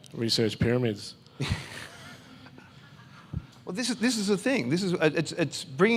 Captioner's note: laughs in agreeance